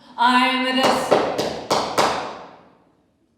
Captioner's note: hammering